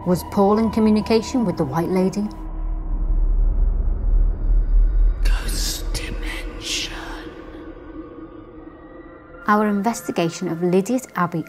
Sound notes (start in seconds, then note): 2.6 eerie music; 5.5 ghostly Voice